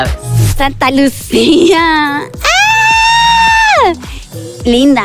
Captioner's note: gayscream